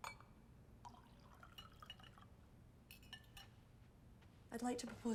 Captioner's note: wine trickles